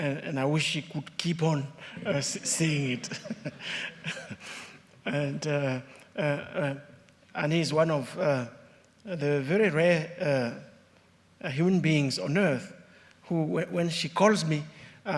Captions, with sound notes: and I wish she could keep on saying it. (chuckles) And Ann is one of the very rare human beings on earth who, when she calls me,